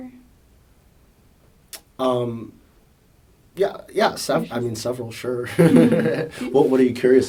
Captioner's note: laughs